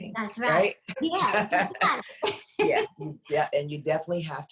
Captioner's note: laughs